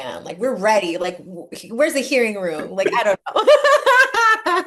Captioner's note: laugh